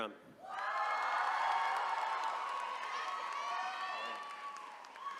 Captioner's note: attendees cheering